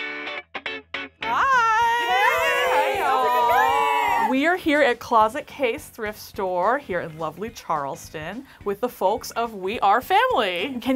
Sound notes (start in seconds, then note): 3.1 all cheering